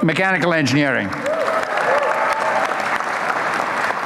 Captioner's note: applause